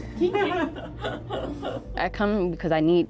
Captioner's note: laughing